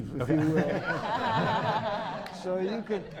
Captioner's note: laughter